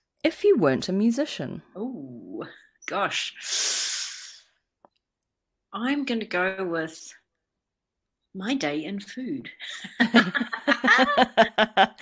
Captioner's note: laughs